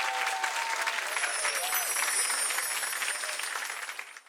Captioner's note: gently chiming bells